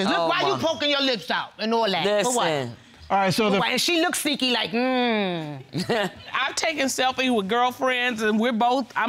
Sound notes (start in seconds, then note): 5.8 audience laughing